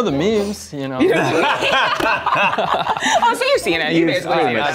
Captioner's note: laughter